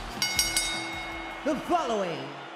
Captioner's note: bell rings